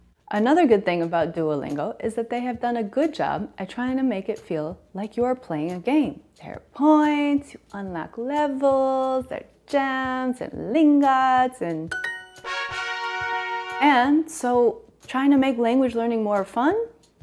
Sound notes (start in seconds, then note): 11.9 fun sounds